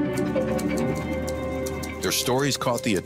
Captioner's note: keys clicking